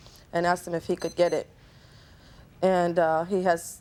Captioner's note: machine beeping